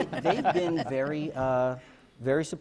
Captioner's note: laughter